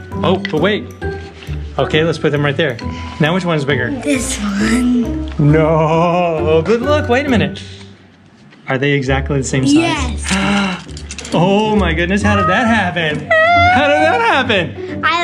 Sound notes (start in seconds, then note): 10.3 dad gasps; 12.2 squeal